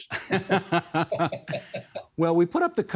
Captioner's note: both laughing